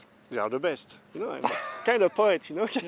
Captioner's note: laughter